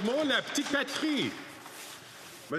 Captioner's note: applause